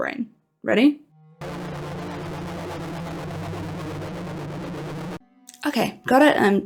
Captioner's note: brain downloading sounds